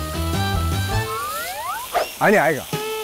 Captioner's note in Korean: 스윽